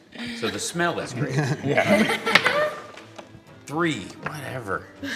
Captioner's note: laughs